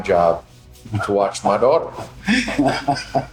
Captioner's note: laughing